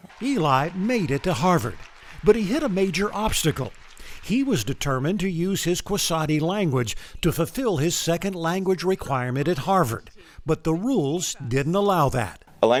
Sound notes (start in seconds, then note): 0.0 crowd cheering